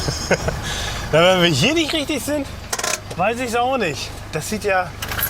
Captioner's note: laughs